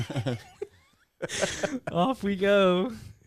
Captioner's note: laughing